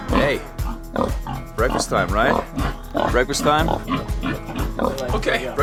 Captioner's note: pig snorting